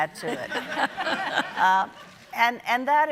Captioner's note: audience laughing